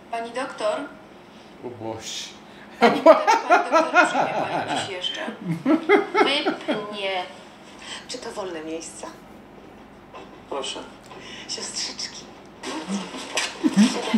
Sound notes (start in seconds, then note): 0.9 foreign language; 3.1 laughs; 5.5 foreign language